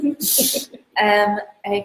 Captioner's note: giggles